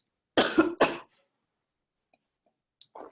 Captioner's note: coughing